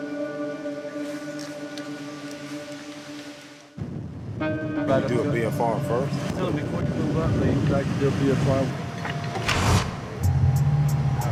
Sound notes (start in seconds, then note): none